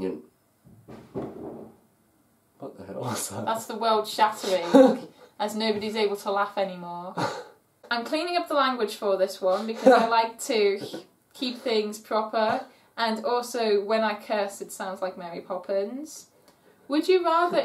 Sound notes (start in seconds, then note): 0.7 an off-camera bang